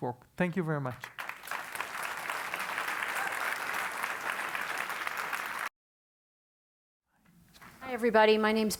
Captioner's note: applause